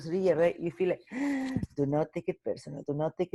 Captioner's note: gasping